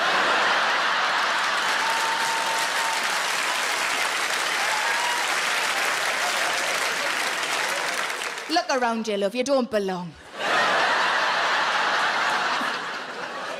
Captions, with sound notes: (audience laughs) (audience applauds) Look around ya love, you don't belong. (audience laughs)